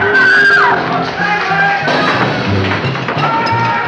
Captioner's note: screaming